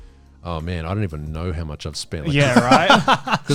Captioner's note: all laughing